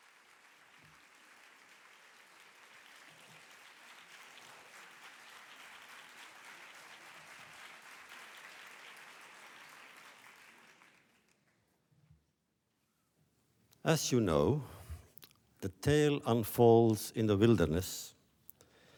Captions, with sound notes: (applause) As you know, the tale unfolds in the wilderness.